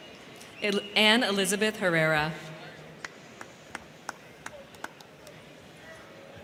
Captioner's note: crowd cheering